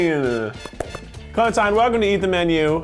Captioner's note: clapping